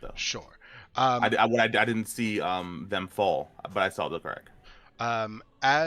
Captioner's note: stammers